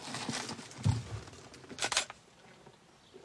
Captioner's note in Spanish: Disparo cámara